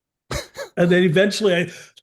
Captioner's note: holding breath